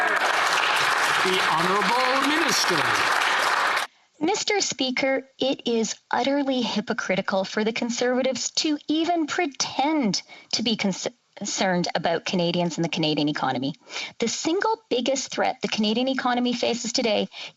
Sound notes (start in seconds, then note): 3.1 some Applause